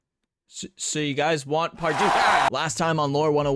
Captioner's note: rabid cheering